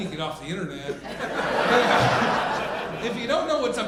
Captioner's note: audience laughing